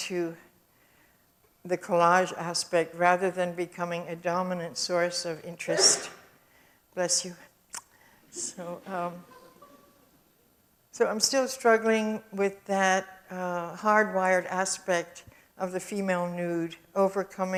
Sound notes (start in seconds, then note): 5.6 audience sneeze; 9.1 audience chuckles